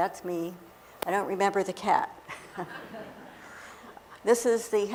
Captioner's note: laughter